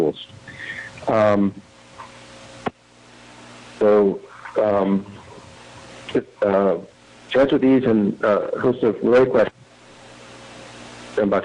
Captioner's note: audio cutting in/out